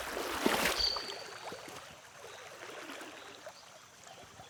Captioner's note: splashing